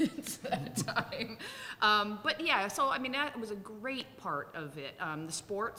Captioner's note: laughs